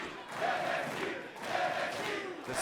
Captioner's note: fans chanting